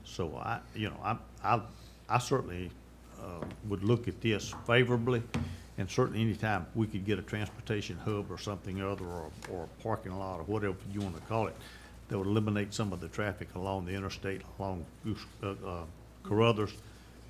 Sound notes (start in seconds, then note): none